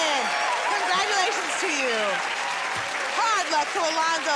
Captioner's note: cheers and applause